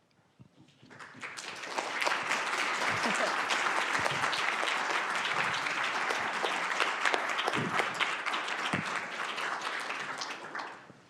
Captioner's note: applause